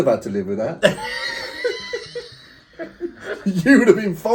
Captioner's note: both laughing